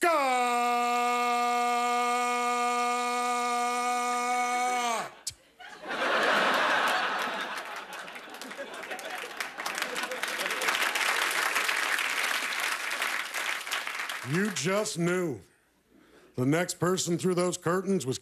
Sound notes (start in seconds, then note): 8.2 laughter; 8.5 applause